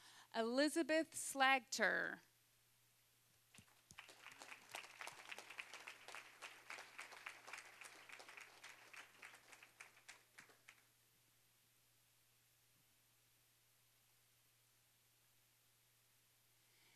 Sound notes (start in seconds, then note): 3.5 applause